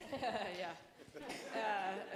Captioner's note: chuckling